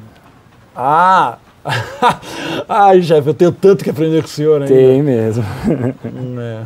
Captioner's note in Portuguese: risos